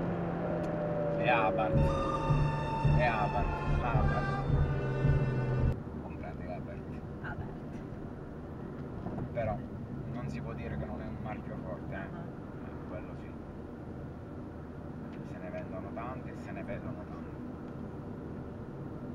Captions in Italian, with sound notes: *suono di sfida* le abarth.... le abarth comprati l'abarth... però... non si può dire non sia un marchio forte.. quello si.. se ne vedono tante e se ne vendono tante..